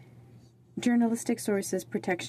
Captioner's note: speaking French